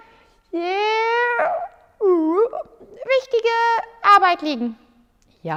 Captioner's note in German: gähnt